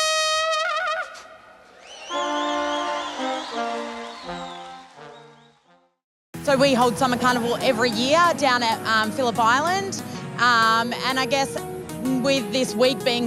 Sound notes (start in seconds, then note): 1.8 audience applauding